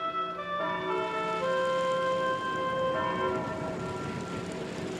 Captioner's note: bell tolling